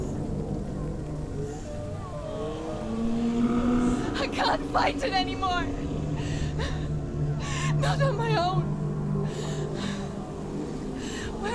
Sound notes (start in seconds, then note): 6.1 sobbing; 10.2 sobbing